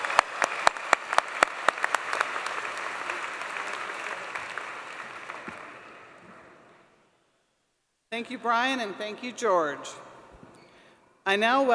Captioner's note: applause